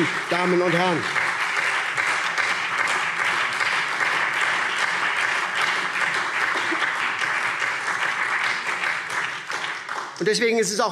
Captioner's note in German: Beifall SPD